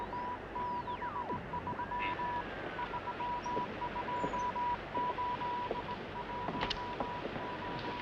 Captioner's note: radio Morse code sound